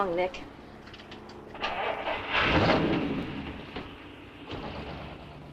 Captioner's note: car engine rumbling